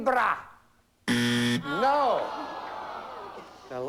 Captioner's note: buzzer